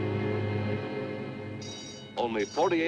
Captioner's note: bell ringing